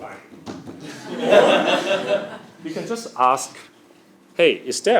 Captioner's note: laugh